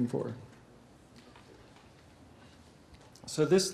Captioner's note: pause